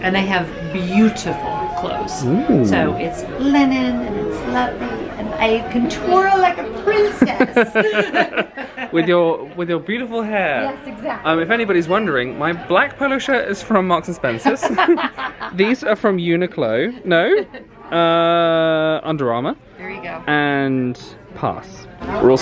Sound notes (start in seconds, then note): 7.2 they chuckle; 14.5 laughs